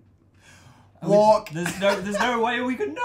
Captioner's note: laughs